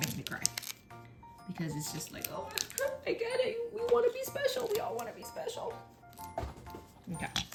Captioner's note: sobs